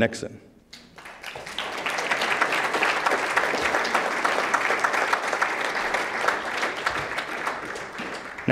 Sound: applause

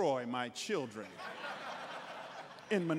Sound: congregants laughing

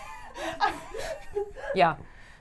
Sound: laughs

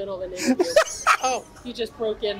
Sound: laughs

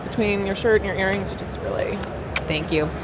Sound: kiss

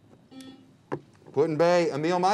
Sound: buzzer beeps

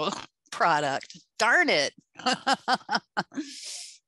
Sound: laughs

